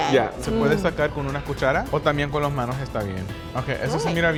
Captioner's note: speaking Spanish